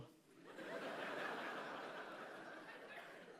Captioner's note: laughter